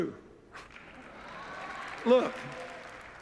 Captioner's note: applause